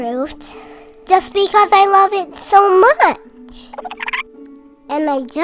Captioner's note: giggles